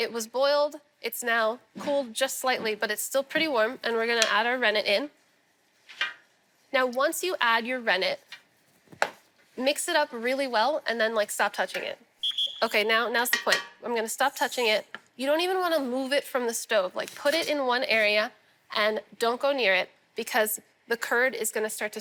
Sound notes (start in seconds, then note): 12.2 whistle blows